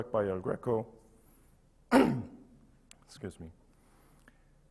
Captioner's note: coughs